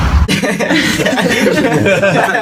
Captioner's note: giggles